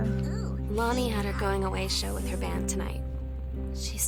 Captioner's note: alert